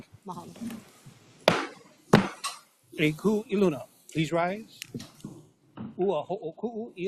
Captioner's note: gavel bangs twice